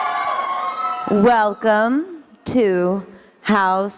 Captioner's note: audience cheering